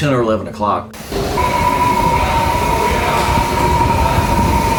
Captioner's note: wind gusting